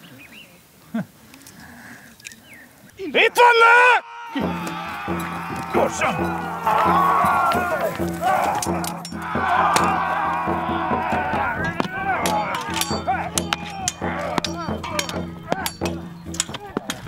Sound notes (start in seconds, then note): 4.3 battlecries in the distance; 6.5 sounds of battle